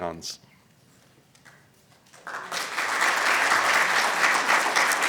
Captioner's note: applause